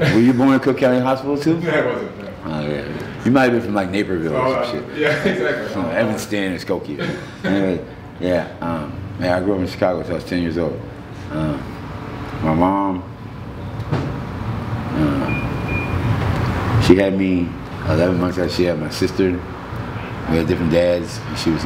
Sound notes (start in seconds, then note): 6.9 chuckling